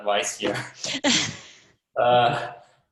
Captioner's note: chuckles